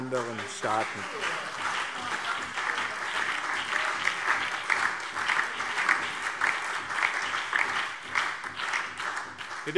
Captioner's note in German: Beifall BÜNDNIS 90/DIE GRÜNEN, SPD und DIE LINKE